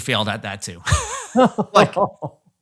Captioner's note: laughing